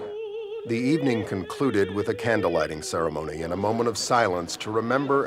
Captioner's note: humm